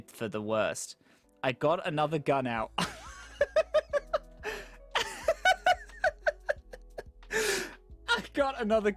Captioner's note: laughs repeatedly